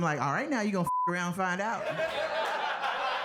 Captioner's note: beep